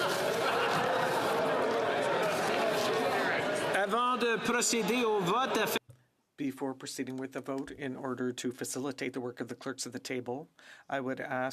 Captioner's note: some applause